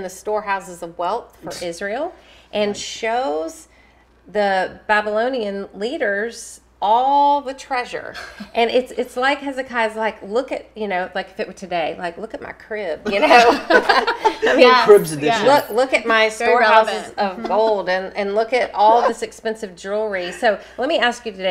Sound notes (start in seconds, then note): 15.0 laughter